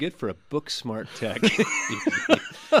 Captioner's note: both laugh